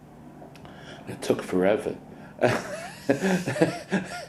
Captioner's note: laughs